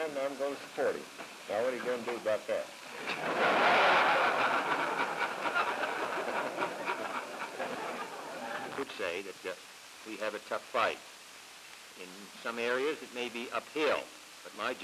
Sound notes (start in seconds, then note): 7.8 laughter